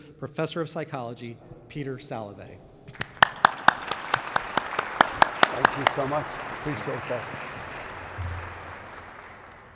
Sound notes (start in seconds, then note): 2.8 audience claps; 3.4 claps